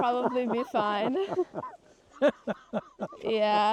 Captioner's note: laughter